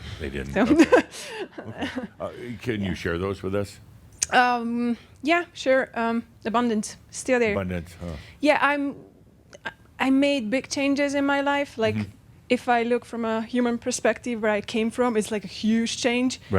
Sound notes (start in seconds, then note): 0.6 she chuckles